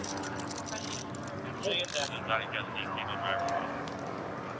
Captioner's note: dispatch chatter